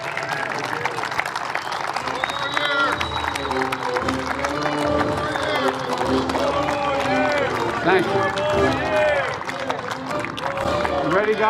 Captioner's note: applause